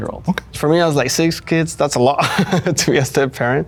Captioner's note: chuckles